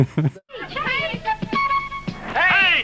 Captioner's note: laughs; upbeat music; kids speaking faintly